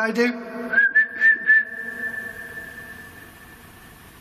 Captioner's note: whistling